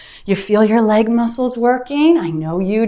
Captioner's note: timer beeps